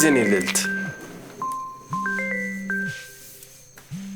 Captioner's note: phone ringing